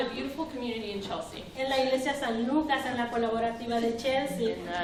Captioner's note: speaking spanish